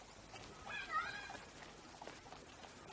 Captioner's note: children yelling